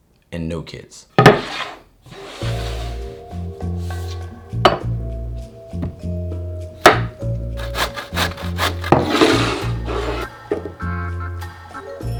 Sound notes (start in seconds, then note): 2.0 board sliding; 7.6 knife chopping; 7.6 zucchini grating